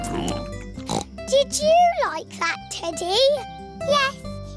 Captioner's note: snorts